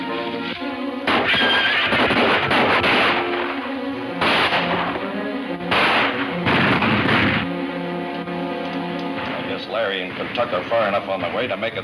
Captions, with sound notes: (dramatic music) (gunshots banging) - I guess Larry and Kentucky are far enough on the way to